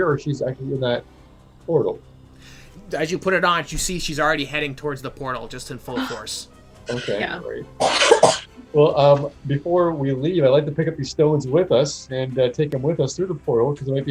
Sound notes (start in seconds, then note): 7.8 coughing